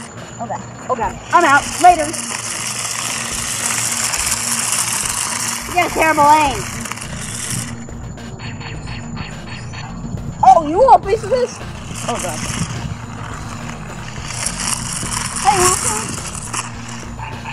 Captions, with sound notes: Oh god, oh god, I'm out. Later! (wheels scraping) You've got a terrible aim. (laser shots) Oh, you want a piece of this?! Oh god. (wheels scraping)